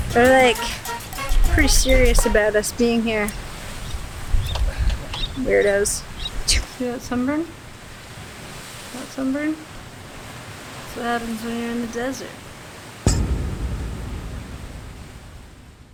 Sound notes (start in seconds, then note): 3.5 waves rushing; 13.1 tense music